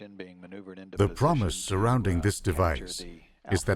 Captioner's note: voiceover